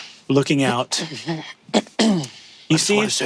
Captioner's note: Ally clears throat